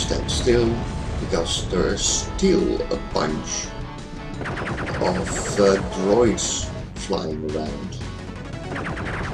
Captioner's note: drones